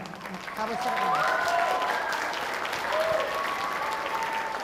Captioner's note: audience applauding